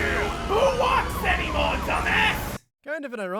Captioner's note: loud traffic